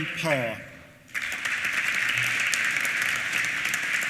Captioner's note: applause